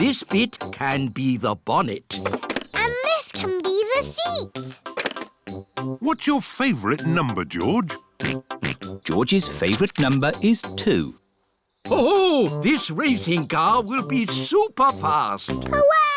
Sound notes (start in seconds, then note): 9.0 snorts